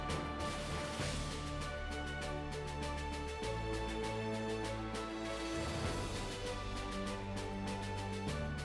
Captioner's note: applause